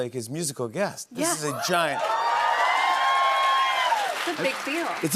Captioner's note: cheers and applause